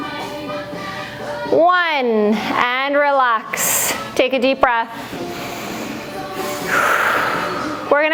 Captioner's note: breath